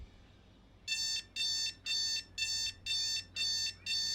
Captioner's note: alarm beeping